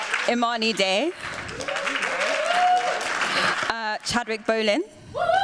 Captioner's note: applause; cheers, applause; cheers, applause